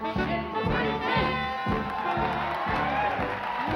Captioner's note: cheering